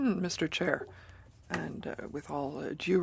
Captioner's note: speaking French